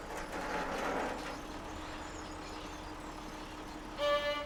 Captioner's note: machine whirring